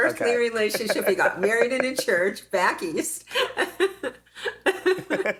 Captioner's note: laughs